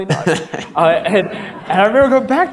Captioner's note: audience laughter